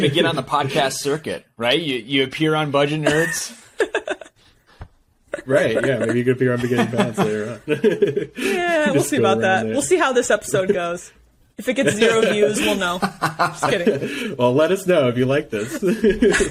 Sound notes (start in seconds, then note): 11.8 laughing